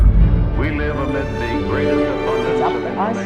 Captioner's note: chatter